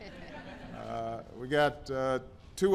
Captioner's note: laughter